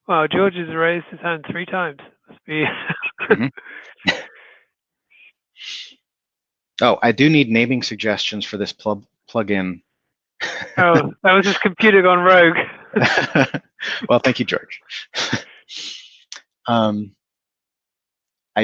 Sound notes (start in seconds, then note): 2.6 chuckling; 10.4 laughs; 12.6 laughing